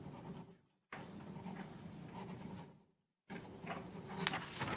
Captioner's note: pen scribbling on paper